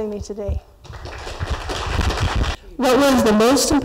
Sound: applause

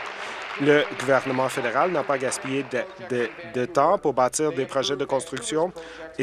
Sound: applause

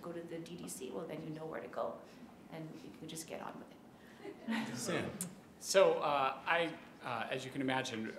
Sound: laughter

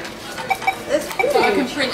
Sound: scanner sounds

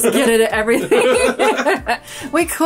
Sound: laugh

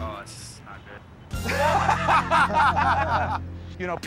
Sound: laughter

